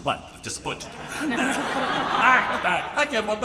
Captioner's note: audience laughing